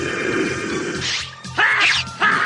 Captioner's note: SFX: sword strokes